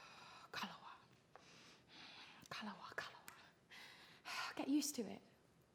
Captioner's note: whispers